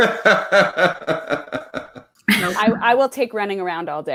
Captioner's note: laughs